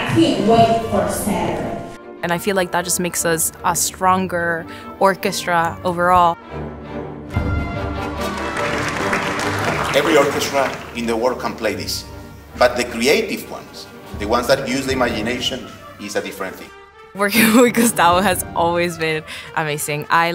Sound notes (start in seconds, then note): 6.9 upbeat music; 7.9 crowd applause